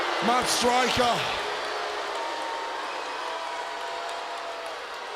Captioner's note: crowd booing